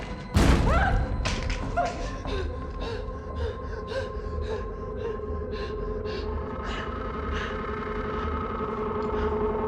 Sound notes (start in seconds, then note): 0.6 screams; 2.0 heavy breathing